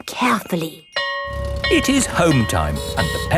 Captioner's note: school bell ringing